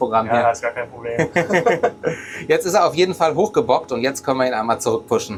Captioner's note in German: gelächter